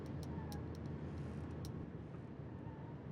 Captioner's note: clicking